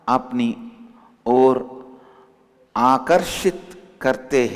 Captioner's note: hindi